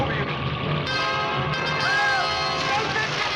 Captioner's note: screaming